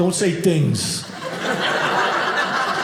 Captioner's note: audience laughing